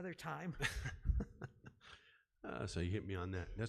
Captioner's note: laughing